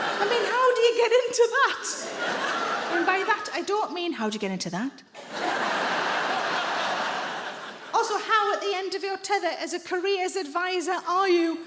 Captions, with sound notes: I mean, how do you get into that? And by that, I don't mean... [IN A LUSTFUL VOICE]: "How do you get into that?" Also, how at the end of your tether as a careers advisor are you